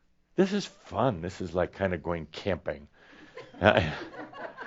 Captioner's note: some laughter